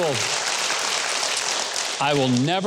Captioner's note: audience applauds